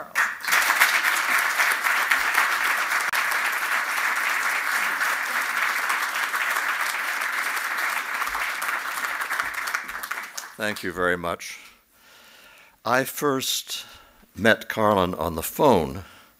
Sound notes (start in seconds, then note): 0.0 applause